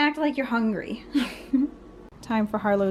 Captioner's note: laughter